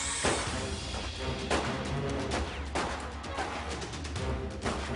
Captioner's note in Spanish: Detonaciones de disparos